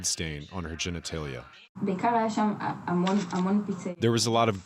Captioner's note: non-english speech